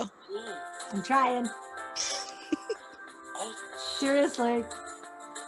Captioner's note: laughs